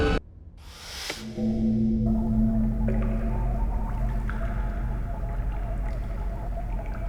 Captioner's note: eerie music; liquid splashing